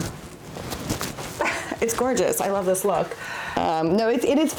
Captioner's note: laughs